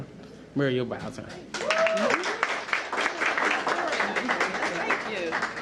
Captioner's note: applause